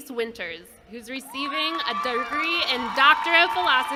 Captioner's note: applause